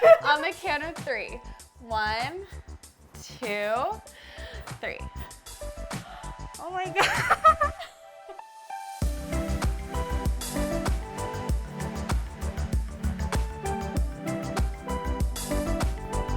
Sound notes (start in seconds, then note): 6.0 gasps; 9.0 upbeat music